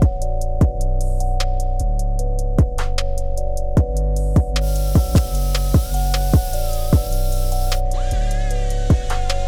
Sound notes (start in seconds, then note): 4.6 tool hums